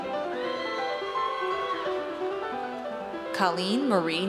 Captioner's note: audience cheers